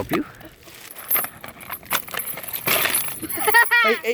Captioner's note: chains clanging; proud laughter